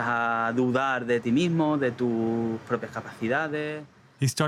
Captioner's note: speaking Spanish